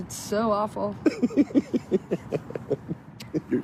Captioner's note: laughs